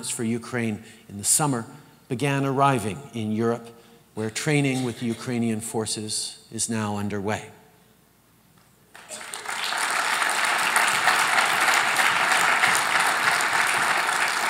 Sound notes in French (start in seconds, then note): 8.9 Applaudissements